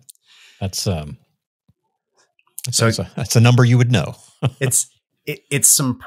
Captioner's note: chuckles